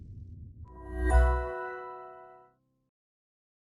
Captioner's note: chime